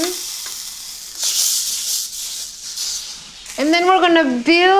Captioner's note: sizzling